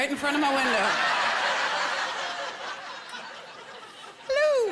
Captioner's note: laughter